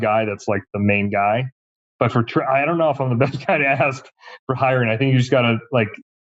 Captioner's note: laughs